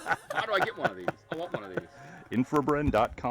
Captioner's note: laughing